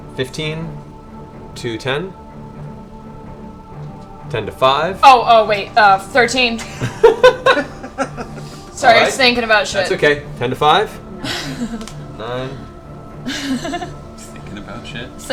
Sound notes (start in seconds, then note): 6.5 laughter